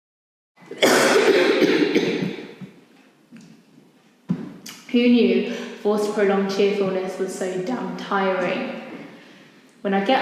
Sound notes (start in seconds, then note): 0.7 she coughs